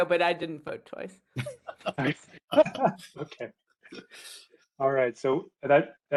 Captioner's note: laughter